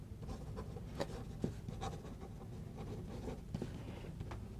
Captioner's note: pen scribbling